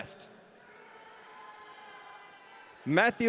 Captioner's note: audience cheering